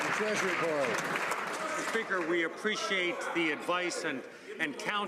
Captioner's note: some Applause